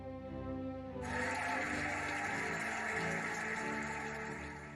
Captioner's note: cheering and applauding